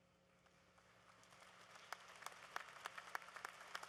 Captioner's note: applause